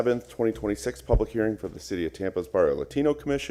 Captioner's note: sounding gavel